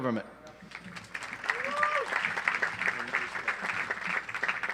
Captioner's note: audience applauds